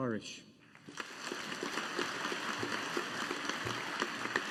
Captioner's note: audience applauding